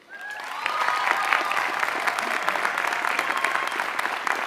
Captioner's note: applause